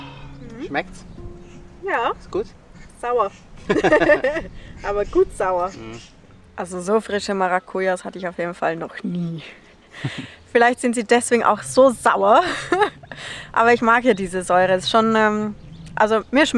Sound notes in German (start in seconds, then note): 3.6 Lachen